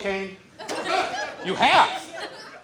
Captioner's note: audience laughs